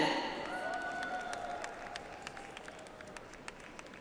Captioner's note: audience applauds